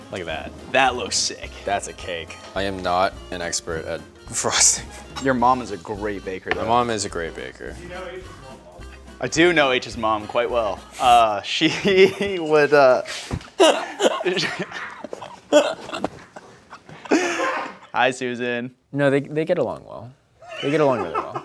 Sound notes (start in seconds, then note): 11.7 chuckles; 13.4 both laugh; 13.4 laughs; 20.6 producer laughs